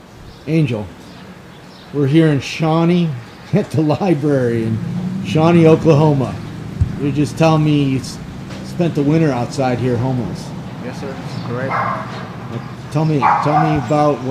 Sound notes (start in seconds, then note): 13.1 dog barking